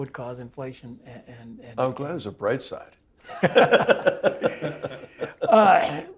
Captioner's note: laugh